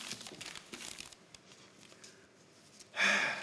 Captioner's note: sound of paper shuffling